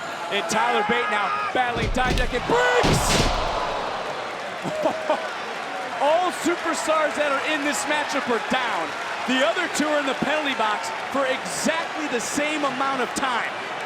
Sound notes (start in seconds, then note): 4.9 chuckles